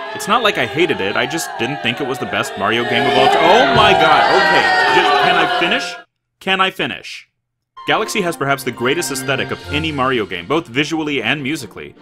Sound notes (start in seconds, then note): 0.0 boooooo!!!; 3.2 booooooo!!!